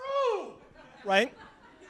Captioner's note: laughter